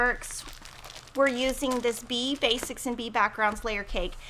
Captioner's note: plastic crinkles